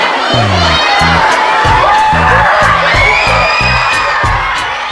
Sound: cheering continues

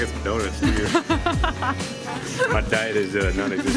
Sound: laughs

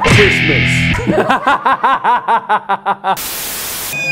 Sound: all laugh

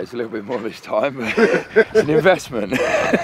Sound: chuckling

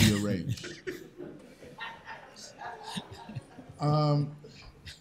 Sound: laughter

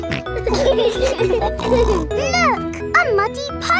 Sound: laughing

